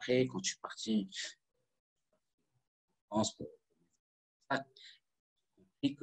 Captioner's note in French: coupure audio